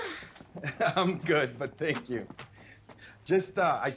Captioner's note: chuckles